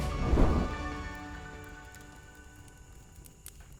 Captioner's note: crackling fire